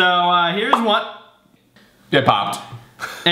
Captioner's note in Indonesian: pop